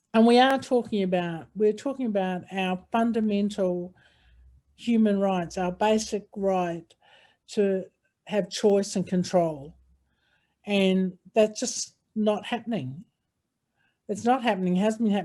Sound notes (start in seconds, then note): 6.7 audio lost